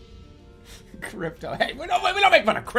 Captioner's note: giggling